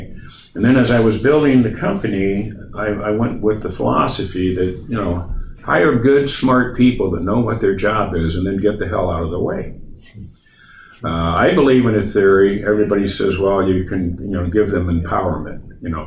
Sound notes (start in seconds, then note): none